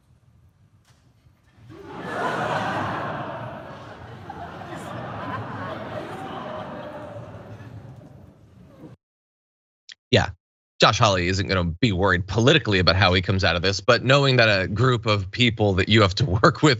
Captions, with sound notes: >> [LAUGH] >> Yeah, Josh Hawley isn't gonna be worried politically about how he comes out of this. But knowing that a group of people that you have to work with and